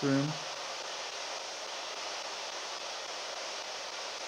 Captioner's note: device hissing